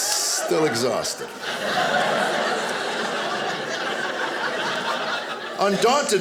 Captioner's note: audience laughing